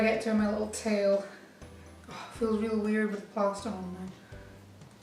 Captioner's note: sighs